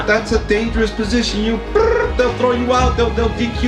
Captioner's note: trills